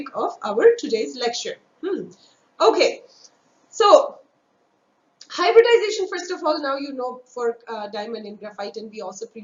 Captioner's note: vocalized- noise